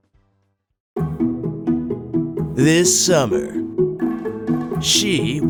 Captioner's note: trailer announcer voice